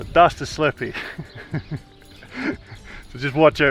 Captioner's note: laughing